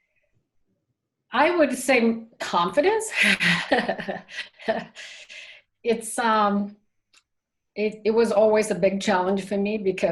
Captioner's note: both laugh